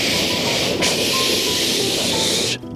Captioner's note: none